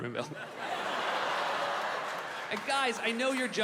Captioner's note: audience laughing